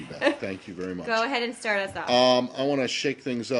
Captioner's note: laughter